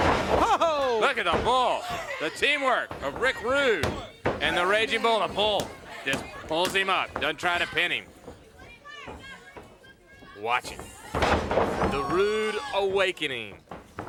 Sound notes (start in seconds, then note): 8.2 crowd yelling; 10.8 body thudding